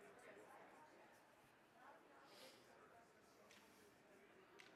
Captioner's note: crowd chattering